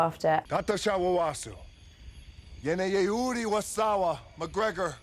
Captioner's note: Frank speaking Puka Michuna